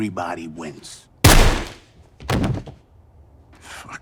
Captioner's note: gunshot